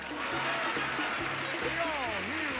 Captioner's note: audience applauding